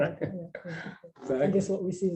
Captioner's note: laughs